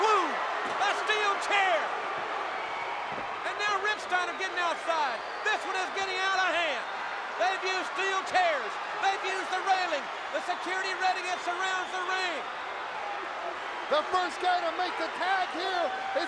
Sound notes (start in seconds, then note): 2.1 crowd cheering